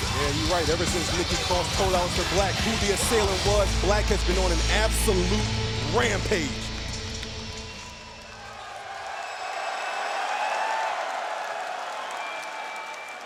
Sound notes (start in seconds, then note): 8.6 crowd cheering